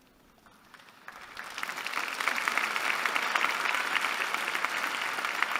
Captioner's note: applause